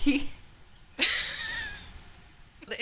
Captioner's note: laughing